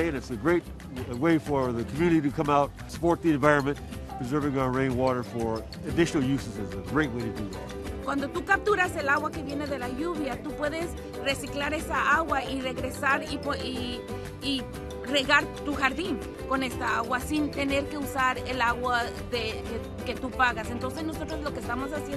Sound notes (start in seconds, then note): 7.9 Spanish